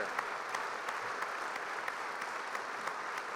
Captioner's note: applause